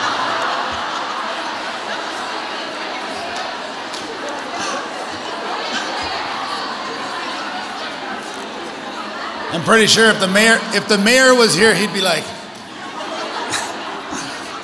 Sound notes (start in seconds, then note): 0.0 audience laughs; 3.1 audience chattering